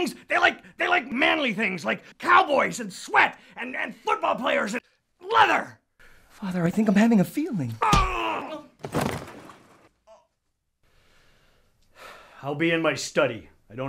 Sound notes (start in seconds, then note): 7.9 General Bedfellow grunting; 8.8 hand thudding